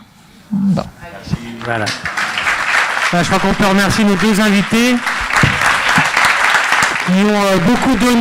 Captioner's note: applauds